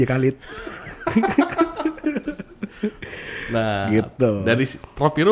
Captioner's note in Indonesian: ketawa